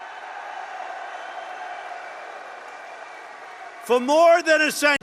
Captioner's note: applause